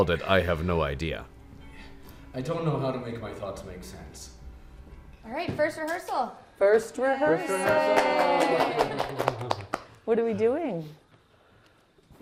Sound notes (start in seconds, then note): 7.4 people clapping